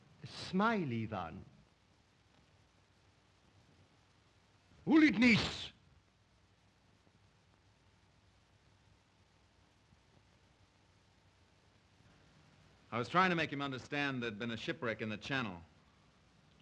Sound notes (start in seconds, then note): 4.7 shouts command in Russian